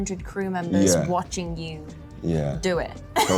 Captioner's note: laughs